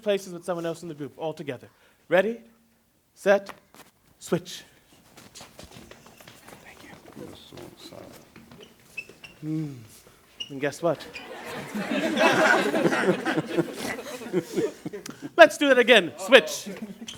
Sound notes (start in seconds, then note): 5.1 shuffling; 6.8 whispered; 10.9 laughter